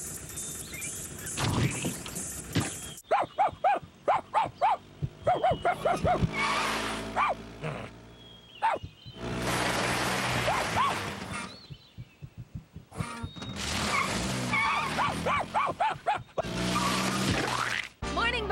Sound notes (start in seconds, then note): 1.5 splosh!; 4.0 barking; 5.8 brakes Screech; 7.1 bark!; 14.6 brakes Screech; 14.8 barking Continues; 16.8 splat!